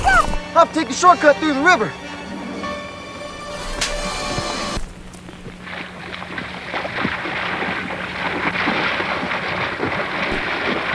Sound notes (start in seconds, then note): 3.7 slapping; 5.3 water splashing